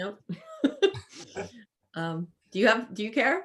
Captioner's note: laughs